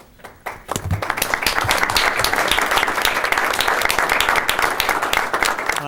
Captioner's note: applause